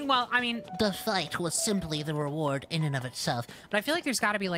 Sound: nerd Voice

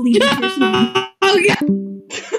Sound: glitching; discord disconnect sound; both laughing

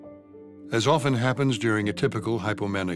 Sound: voiceover

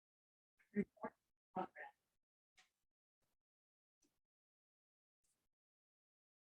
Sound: chattering

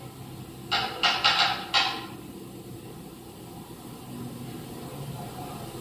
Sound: knocking rhythmically

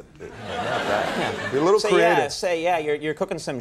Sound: audience laughing

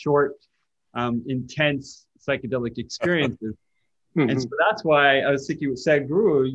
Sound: Sadhguru laughs

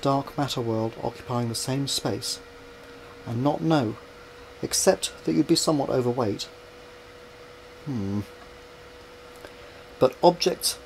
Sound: hmm

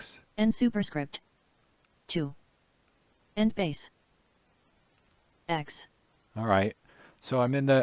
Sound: synthesized speech

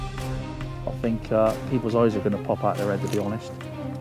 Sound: dramatic music; voiceover

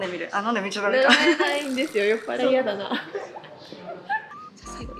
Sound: laughs

